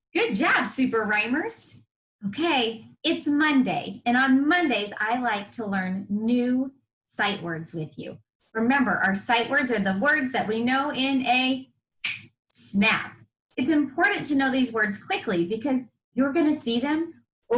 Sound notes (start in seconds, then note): 12.0 fingers snapping